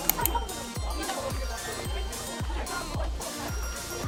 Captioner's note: laughs